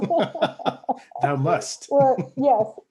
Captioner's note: both laugh